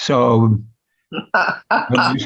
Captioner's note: laughing